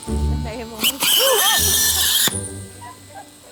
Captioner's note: vacuum suctions loudly; laughs